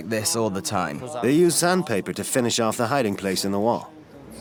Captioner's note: voiceover